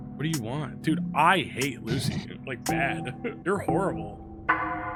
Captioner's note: laughs